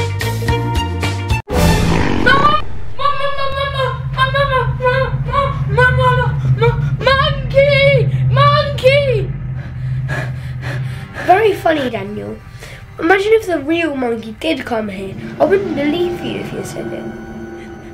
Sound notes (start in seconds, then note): 1.6 moves into suspenseful music; 9.7 panting; 17.6 whimpering